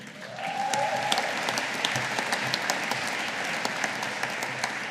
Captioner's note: audience applauding